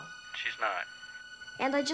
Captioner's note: on phone